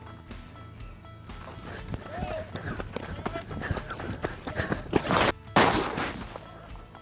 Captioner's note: running